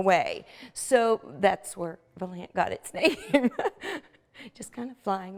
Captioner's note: laughing